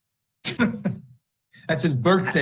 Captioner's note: laughs